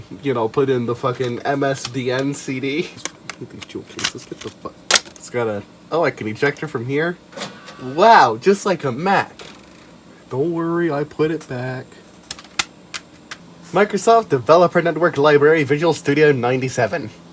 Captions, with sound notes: Y'know, put in the fuckin' MSDN CD! (CD jewel case noises) Hate these jewel cases, get the fuck- (CRACK) Gotta- Oh I can eject it from here? Wow, just like a Mac! Don't worry, I put it back... (CD jewel case noises) Microsoft Developer Network Library - Visual Studio '97!